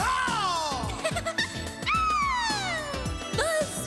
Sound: giggling

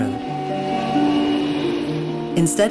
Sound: train whistle

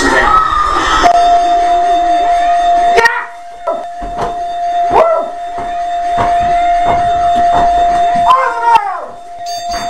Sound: dings, clangs, and whoops

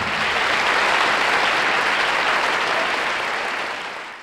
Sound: audience applauds

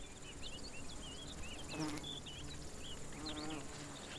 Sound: birds twitter

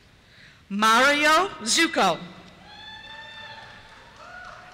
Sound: cheers

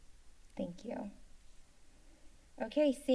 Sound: silence

